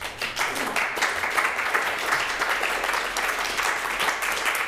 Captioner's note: audience applauding